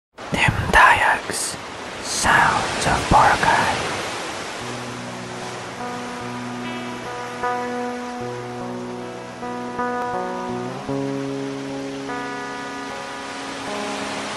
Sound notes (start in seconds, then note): 3.5 waves on the beach; 6.3 guitar playing